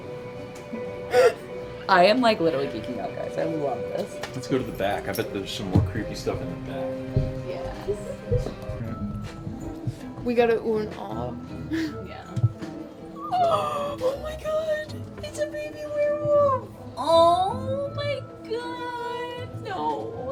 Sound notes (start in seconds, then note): 0.7 riendo; 13.3 jadeando